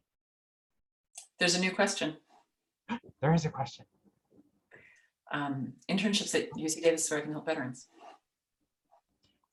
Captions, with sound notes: - There's a new question. - (gasps) There is a question. - Internships at UC Davis center on veterans.